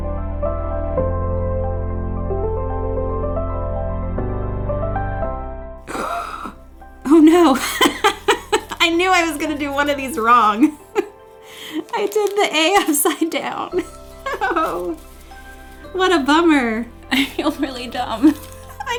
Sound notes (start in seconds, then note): 5.8 gasping; 7.0 laughing; 14.2 laughing